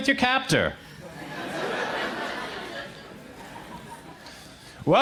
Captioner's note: crowd laughs